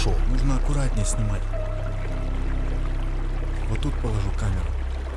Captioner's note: voiceover